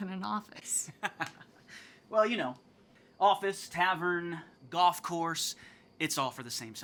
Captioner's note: laughs